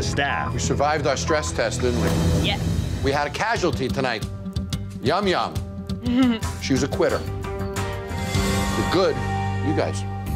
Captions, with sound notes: We survived our stress test, didn't we? - Yeah. - We had a casualty tonight. Yum yum. - [laughs] - She was a quitter. You're good-- you guys.